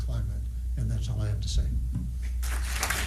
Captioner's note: applause